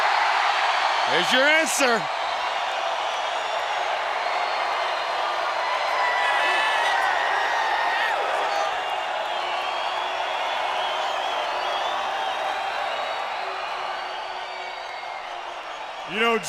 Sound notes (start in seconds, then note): 0.2 crowd cheering; 6.6 crowd chatter